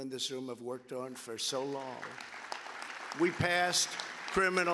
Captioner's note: applause